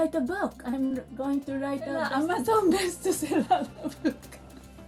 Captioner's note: chuckle